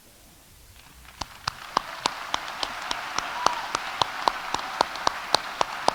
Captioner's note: audience applauding